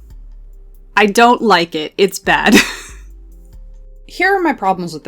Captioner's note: laughs